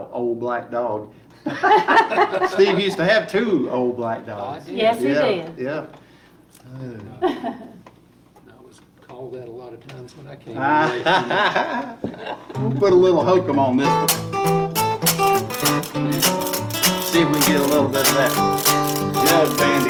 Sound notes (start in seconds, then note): 1.4 laughing; 10.6 laughing